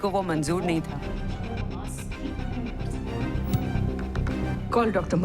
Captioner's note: news on TV